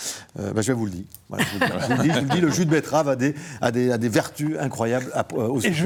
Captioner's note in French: rires